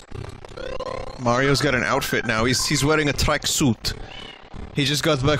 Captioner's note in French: accent russe